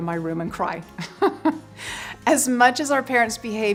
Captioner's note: giggles